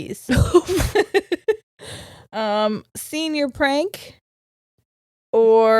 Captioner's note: laughs